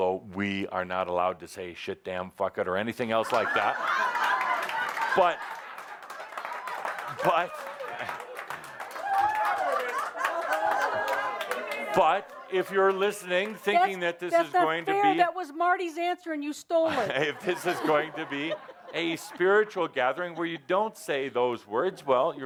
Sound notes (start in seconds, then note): 3.2 lots of laughter and applause